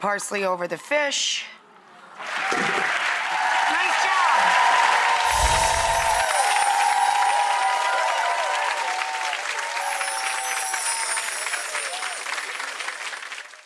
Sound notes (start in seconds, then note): 2.8 audience applauds; 5.2 magical sounds